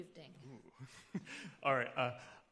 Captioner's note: chuckling